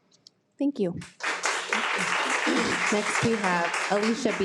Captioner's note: participants applauding